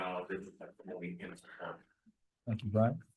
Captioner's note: speaking away from mic